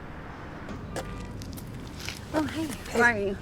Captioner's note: footsteps approaching